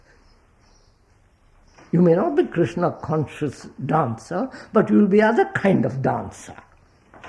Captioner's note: laughs